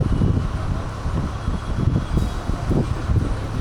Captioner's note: wind blowing